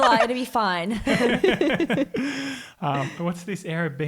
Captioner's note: all laugh